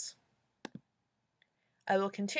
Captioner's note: clicking box- 'I agree'